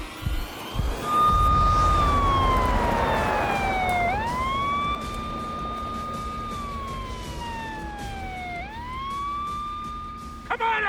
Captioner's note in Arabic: عويل صفارات الإنذار